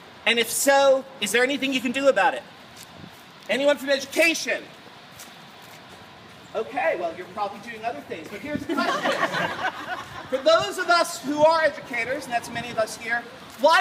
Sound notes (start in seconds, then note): 8.6 laughter